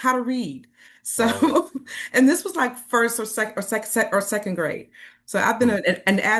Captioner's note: chuckles